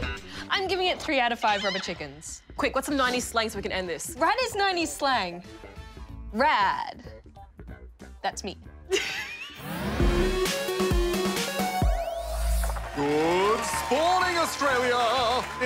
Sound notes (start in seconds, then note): 8.9 laughs